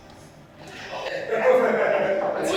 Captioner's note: conspiratorial laughter